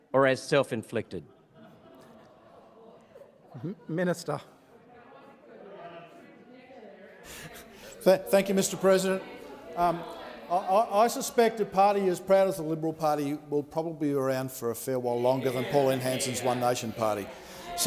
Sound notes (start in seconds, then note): 1.2 members laughing; 5.8 members chattering